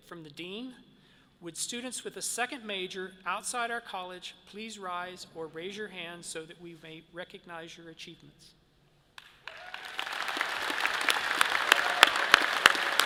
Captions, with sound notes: from the Dean. Would students with a second major outside our College please rise or raise your hand so we may recognize your achievements? (all applauds)